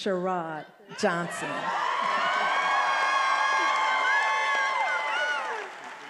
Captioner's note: attendees applauding and cheering